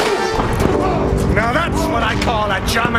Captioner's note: grunting